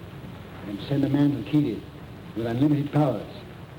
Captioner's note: none